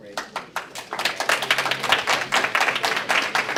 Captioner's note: applause